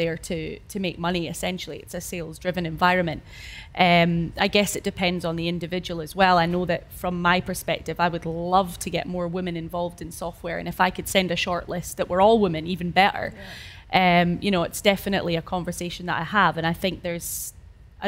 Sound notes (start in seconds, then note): none